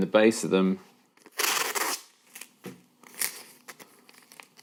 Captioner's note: tape ripping